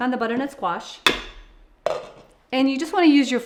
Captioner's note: lid clanks on pan handle